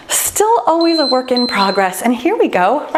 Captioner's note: timer beeps